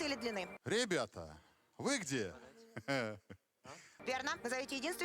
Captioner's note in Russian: смех